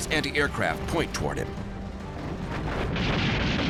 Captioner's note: flak fire